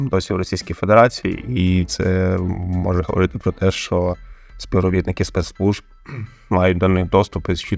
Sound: russian

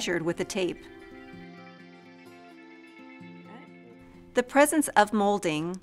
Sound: Silenzio

